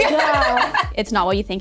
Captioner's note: laughing